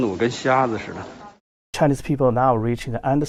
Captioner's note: speaking foreign language